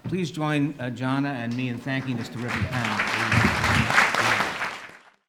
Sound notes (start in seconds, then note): 3.3 applause